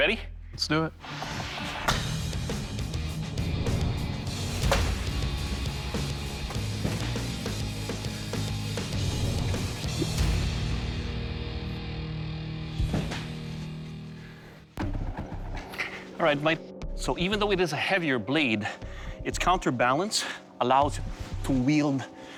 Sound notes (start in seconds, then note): 4.0 blade slashing